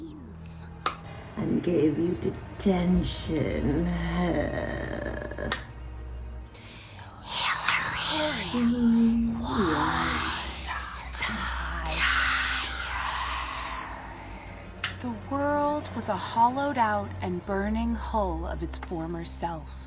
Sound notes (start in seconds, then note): 8.0 whispered, hissing